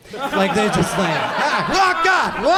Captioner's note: audience laughs